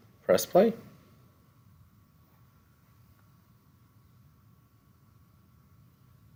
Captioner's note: no Speech Detected; no Speech Detected